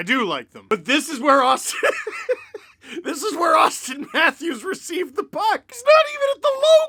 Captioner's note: laughter